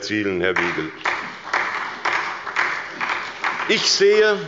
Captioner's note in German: Beifall bei Abgeordneten der SPD und des BÜNDNISSES 90/DIE GRÜNEN